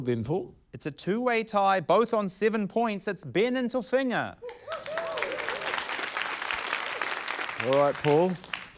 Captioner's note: cheering, applause